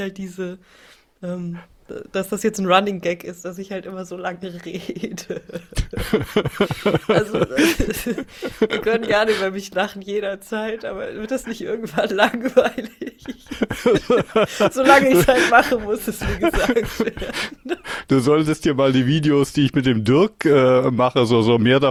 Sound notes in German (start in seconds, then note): 7.8 gelächter; 11.8 gelächter